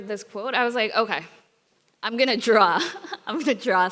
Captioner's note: chuckles